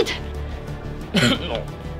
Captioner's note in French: Tousse